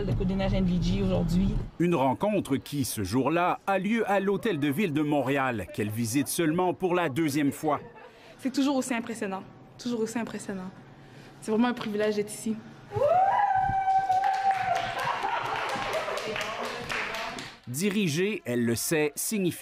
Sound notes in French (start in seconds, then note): 12.9 cris de joie; 13.8 applaudissements